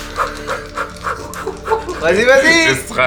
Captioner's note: giggles